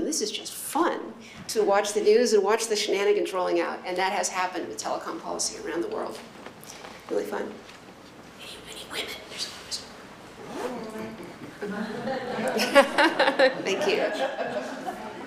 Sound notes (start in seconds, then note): 7.9 whispers